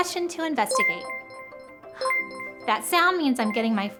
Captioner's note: ringing sound